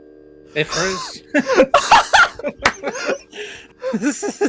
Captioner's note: laughs astonishingly